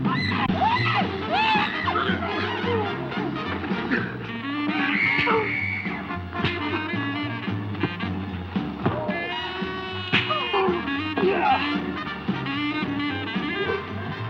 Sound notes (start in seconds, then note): 4.8 Ruth screaming; 6.3 punches thudding; 9.0 Joe grunting